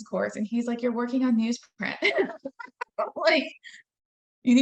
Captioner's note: laughing